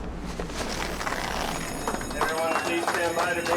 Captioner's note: alarm ringing